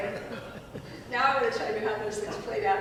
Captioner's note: audience laughing